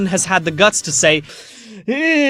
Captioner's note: inhale